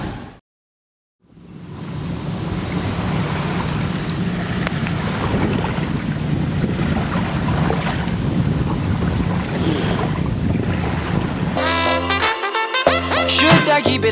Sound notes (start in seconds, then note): 3.5 sounds seagulls in the distance, waves crashing on the beach; 9.4 spits out sand